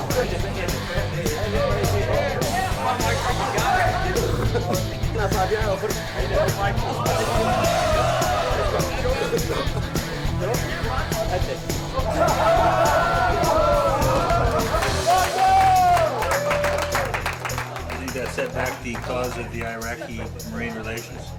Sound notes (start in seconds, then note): 14.2 applause